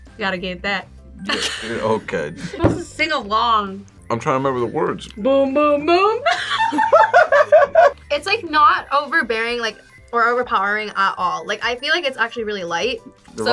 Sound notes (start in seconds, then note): 1.3 laughs; 6.2 both laugh